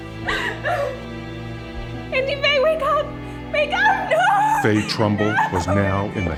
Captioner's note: cries uncontrollably